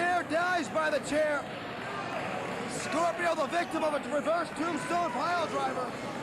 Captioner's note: cheers and applause